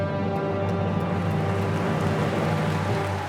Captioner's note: cheers and applause